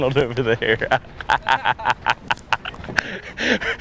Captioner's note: laughing